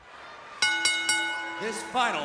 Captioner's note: bell rings